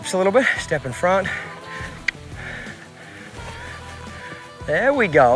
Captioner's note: mouth clicking